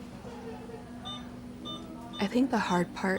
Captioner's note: machine beeping